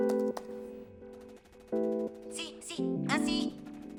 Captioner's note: chatter